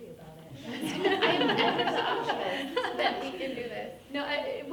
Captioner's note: group laughing